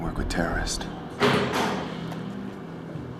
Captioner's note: clattering